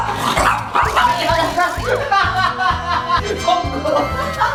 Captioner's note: thumping